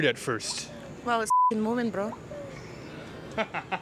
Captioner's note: beep